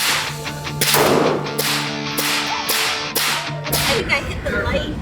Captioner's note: energetic rock music; gun firing